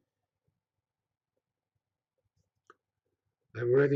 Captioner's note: pause